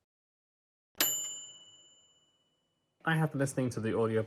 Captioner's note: bell dinging